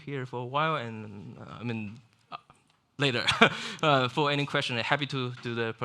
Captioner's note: chuckles